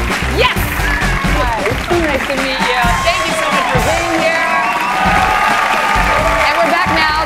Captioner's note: applause